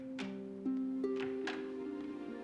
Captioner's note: door opens